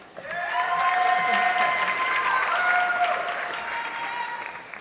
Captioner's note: audience clapping